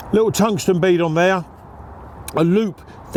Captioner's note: none